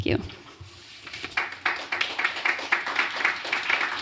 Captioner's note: applause